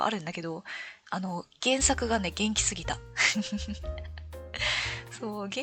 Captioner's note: laughs